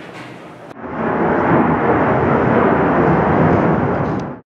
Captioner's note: engine roar